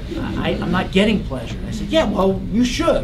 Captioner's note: laugh